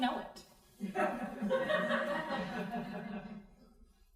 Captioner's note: crowd laughing